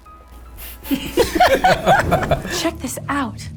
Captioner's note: laughs